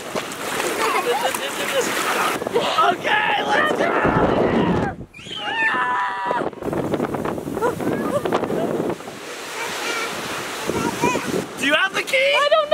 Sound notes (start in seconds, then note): 0.0 water splashing; 5.2 screaming; 10.7 babbling